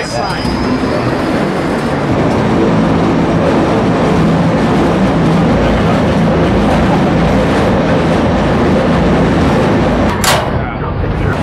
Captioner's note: construction Noise